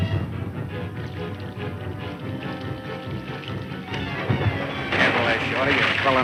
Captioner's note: water sloshing and splashing